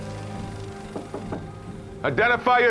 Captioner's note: knocking